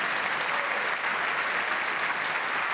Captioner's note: applause